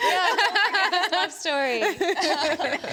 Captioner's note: laughs; speakers laugh